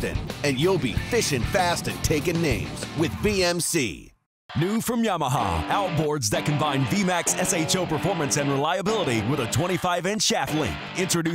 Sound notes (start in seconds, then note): 4.8 voiceover